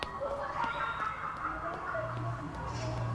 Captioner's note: laughter